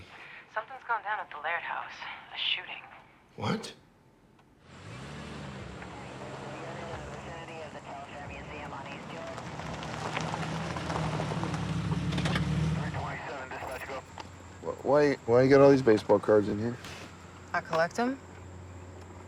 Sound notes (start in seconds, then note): 4.6 police radio chatter